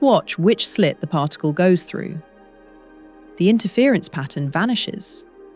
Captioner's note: serious tone